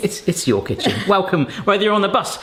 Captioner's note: laughs